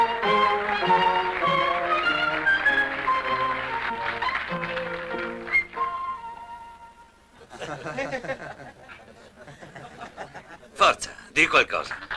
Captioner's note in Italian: Applauso